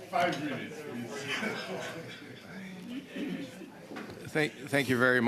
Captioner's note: laughter